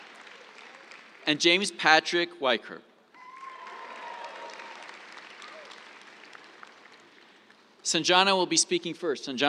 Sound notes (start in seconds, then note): 3.1 cheers, applause